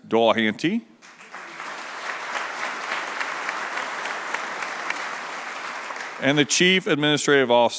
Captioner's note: applause